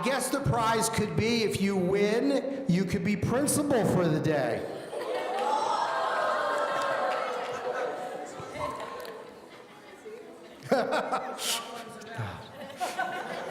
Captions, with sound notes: I guess, the prize could be if you win, you could be principal for the day. (audience gasping excitedly) (laughing)